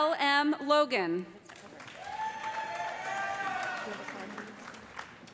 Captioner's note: cheers and applause